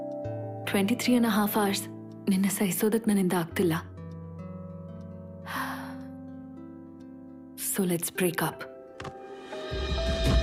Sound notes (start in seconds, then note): 5.5 sighs